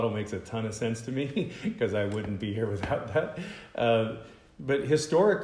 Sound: laughter

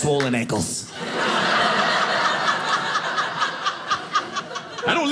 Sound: audience laughing

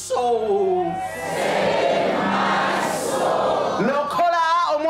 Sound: audience repeats in english

